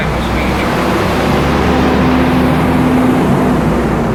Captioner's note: pause as buses noisily pass